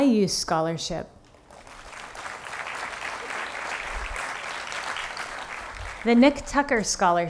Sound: applause

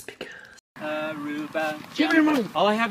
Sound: whispers; indistinct humming

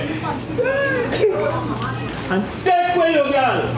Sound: laughs & sings kind of hysterically

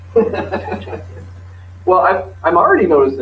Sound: laughter

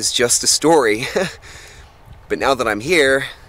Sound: tourist chuckles

